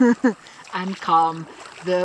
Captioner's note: chuckles